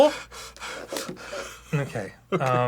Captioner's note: desperate panting